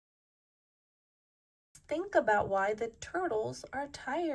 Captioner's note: none